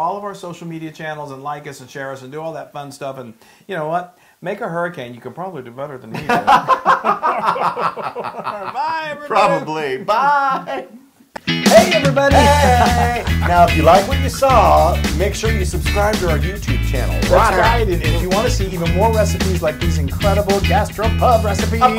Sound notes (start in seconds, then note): 8.0 laugh